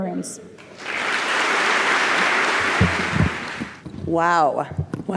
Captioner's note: applause